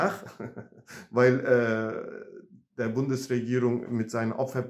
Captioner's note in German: lacht